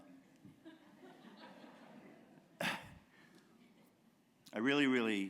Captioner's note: laughter